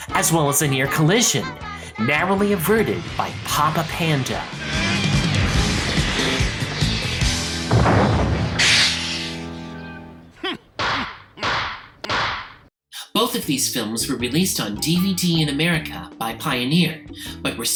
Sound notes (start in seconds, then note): 5.0 Papa Panda straining; 10.4 grunts